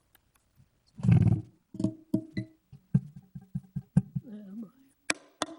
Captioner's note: mic thudding